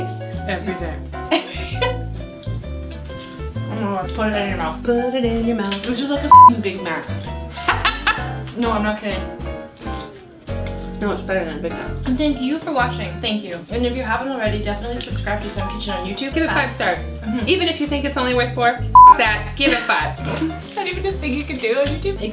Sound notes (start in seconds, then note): 1.2 laughs; 6.3 beep; 7.8 laughs